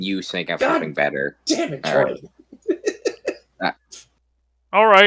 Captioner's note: chuckles